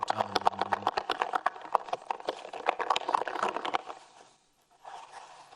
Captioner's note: foil ball rattling